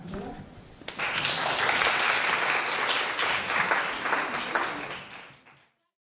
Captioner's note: applause